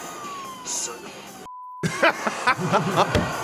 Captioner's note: beep; laughter